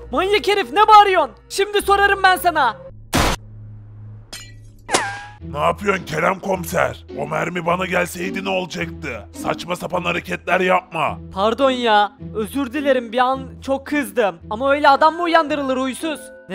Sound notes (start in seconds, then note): 3.1 gunshot